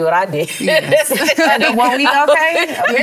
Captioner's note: laughter